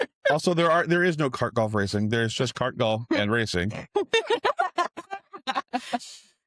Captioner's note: laughter